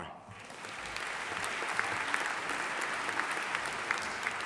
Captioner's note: audience applauding